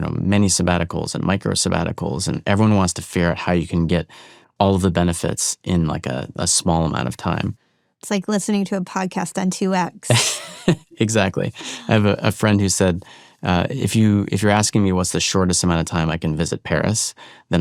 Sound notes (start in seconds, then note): 10.1 chuckles